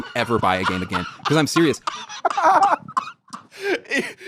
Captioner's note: both laughing